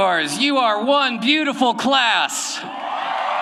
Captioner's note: applause